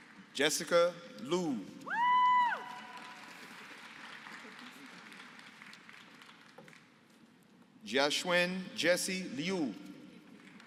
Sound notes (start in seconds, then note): 1.9 applause